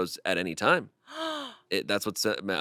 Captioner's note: she gasps